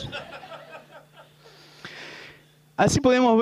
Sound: laughter

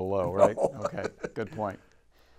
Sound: laughing

